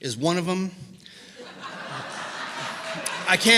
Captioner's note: laughter